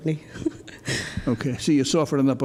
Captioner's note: laughs